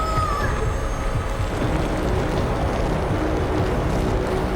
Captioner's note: ground rumbling